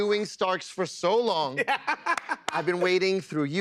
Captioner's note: laughs